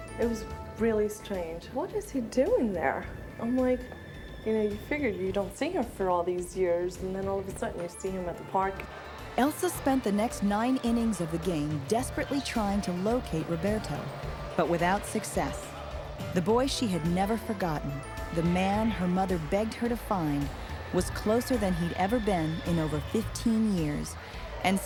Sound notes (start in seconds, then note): 9.1 fans shouting